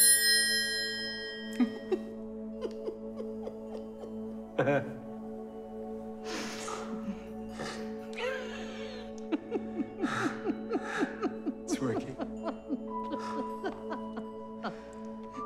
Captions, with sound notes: [Giggling] [Chuckles] [Laughing] Its working.